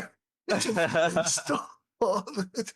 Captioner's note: laughs